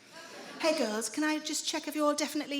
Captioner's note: smug voice